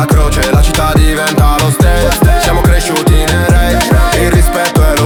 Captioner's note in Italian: rage